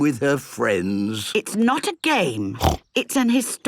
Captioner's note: snorts